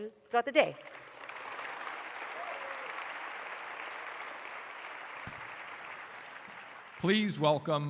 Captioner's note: applause